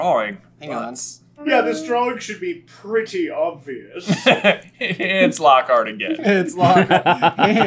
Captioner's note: laughs